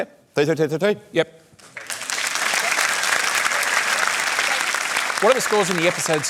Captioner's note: applause